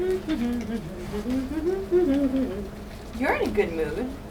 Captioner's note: humming